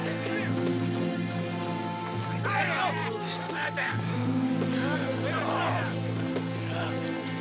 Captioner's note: somber music; shouting in Japanese